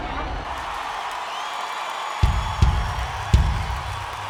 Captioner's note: crowd cheers